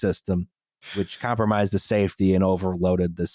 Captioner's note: sucks in a breath